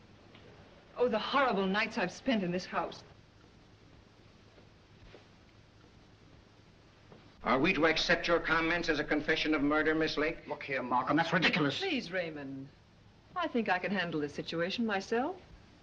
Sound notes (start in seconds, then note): none